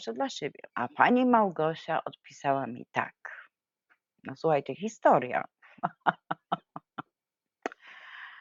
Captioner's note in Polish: śmiech